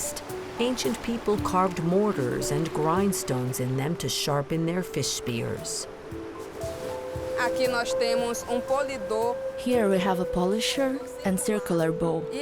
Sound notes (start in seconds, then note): 6.3 speaking Portuguese